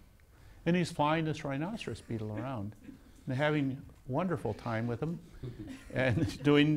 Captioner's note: laughs